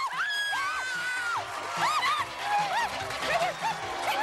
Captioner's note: screaming